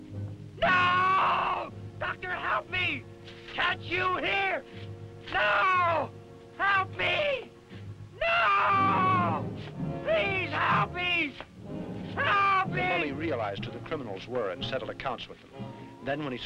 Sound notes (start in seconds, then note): 0.6 screaming